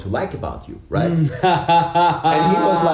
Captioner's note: laughs